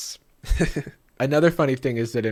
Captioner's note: laughs